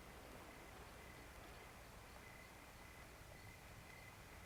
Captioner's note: crickets chirping